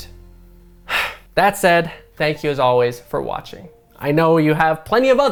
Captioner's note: sighs